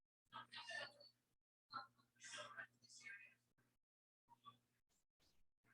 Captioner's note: people chattering indistinctly